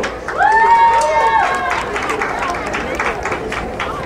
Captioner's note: crowd cheering